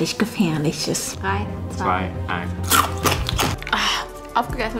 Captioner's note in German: Crunchgeräusche